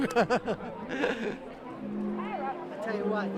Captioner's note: laughing